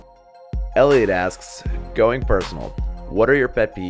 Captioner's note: voiceover